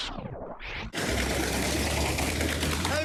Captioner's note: tire flapping